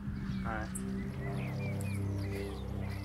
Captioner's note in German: Vogelzwitschern